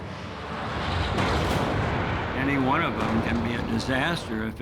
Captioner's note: explosion